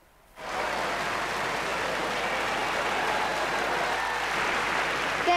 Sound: crowd clapping and cheering

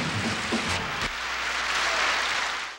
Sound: audience applauding

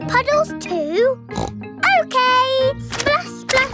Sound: snorts

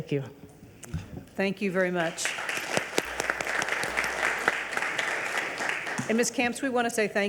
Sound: regents and audience applaud

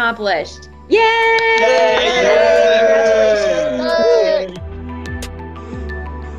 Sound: cheering

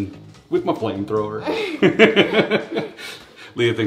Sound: laughs

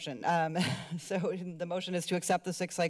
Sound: giggles

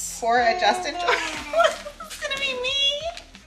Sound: laughing

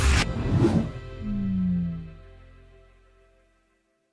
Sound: text whooshing

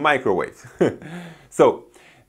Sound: laughs

